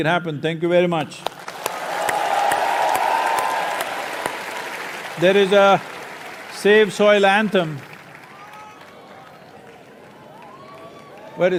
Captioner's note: cheering